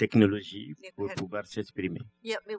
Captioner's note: speaking french